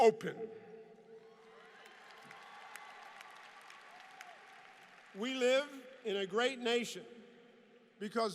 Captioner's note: applause